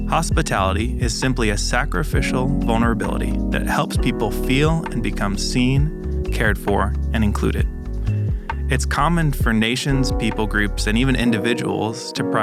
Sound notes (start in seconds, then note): none